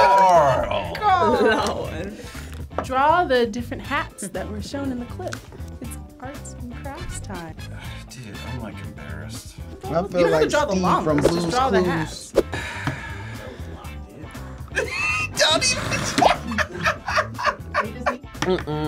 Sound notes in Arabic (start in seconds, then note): 0.0 الجميع يضحكون; 12.4 تلفظ أنفاسها; 12.5 يتنهد; 17.6 يضحك